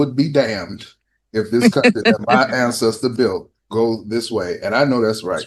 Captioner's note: laughter